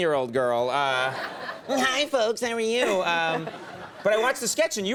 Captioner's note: Scarlett laughs